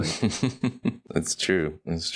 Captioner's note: laughing